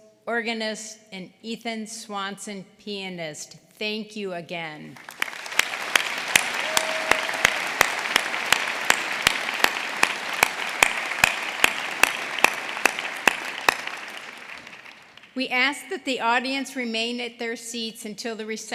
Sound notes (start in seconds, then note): 4.9 applause